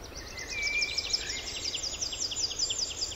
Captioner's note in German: Vogelzwitschern